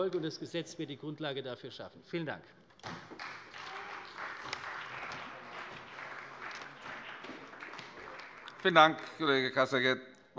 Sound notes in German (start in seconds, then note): 2.8 Beifall bei der CDU und dem BÜNDNIS 90/DIE GRÜNEN